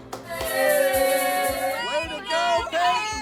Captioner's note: cheering